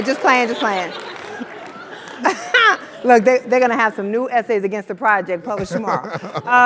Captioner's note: laugh